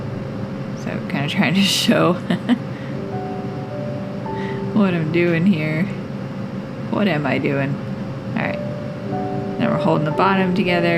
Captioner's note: laugh